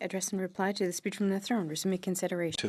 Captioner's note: speaking French